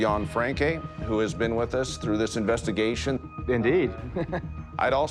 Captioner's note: chuckles